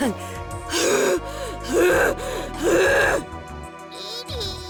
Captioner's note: enraged panting